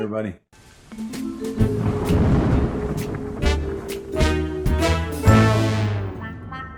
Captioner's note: jazzy, suspenseful music; thunder rolling